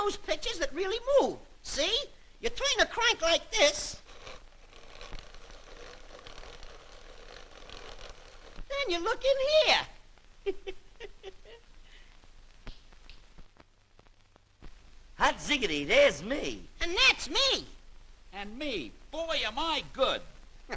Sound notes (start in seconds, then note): 4.3 whirring; 10.4 snickering